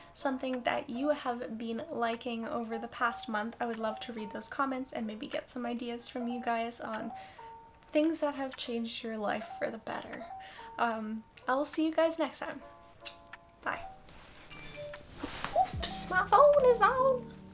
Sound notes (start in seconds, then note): 13.0 kiss sound; 14.5 phone dings